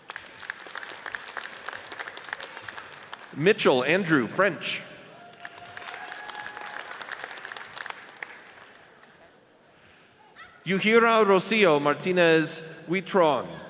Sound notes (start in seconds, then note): 0.0 audience applauds; 5.1 audience cheers and applauds